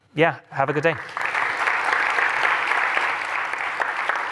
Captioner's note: applause